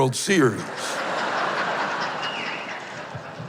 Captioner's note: laughter and whistles